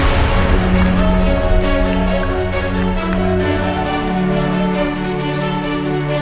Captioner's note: music and applause